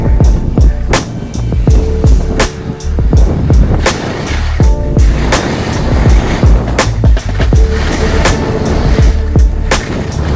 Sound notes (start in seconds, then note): 4.8 skis scrape